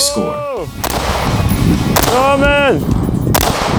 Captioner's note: gun banging